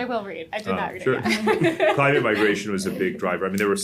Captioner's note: laughs